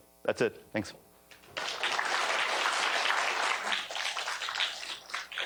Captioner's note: applause